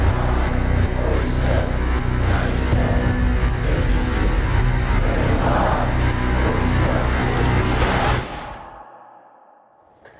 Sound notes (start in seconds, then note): 0.0 chanting